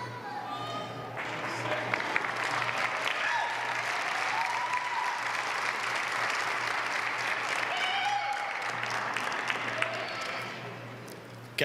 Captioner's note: applause